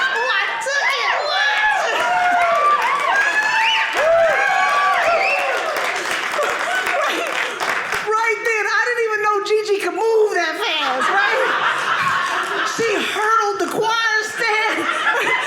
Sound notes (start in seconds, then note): 1.5 audience cheering; 10.6 audience laughing